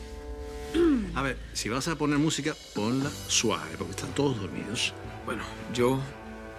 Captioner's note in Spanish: Carraspea